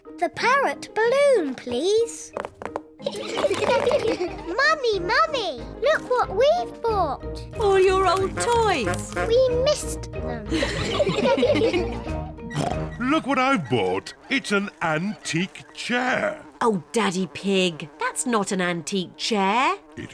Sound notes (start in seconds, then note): 3.1 all laugh; 10.5 all laugh; 12.5 oinks; 15.8 flies buzzing